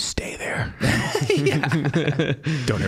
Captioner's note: all laughing